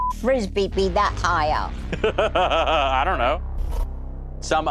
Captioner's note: laughs